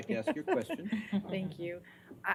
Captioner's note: laughter